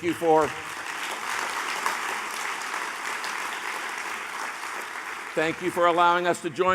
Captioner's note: applause